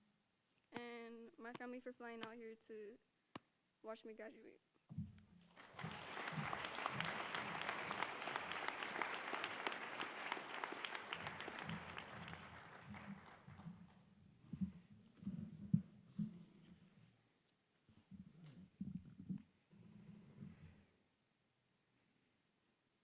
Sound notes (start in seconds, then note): 9.2 applause